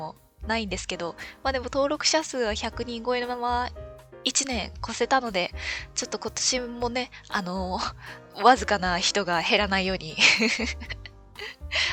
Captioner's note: laughs